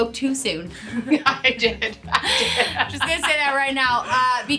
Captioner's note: laughing